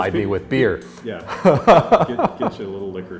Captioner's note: laughing